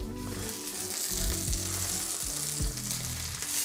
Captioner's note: sizzling sound